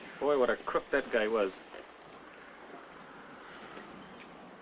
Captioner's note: none